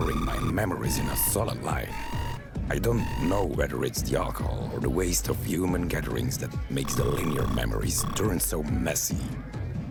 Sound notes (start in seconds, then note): 2.3 warning beeps